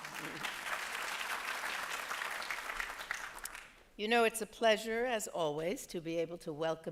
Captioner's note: applause